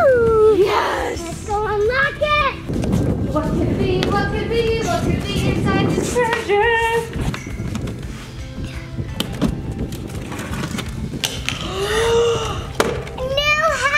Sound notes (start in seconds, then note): 3.3 air whooshing; 4.1 running feet; 11.6 gasping in surprise